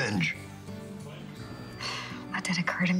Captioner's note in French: sighs